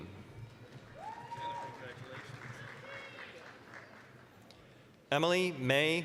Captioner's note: applause, cheering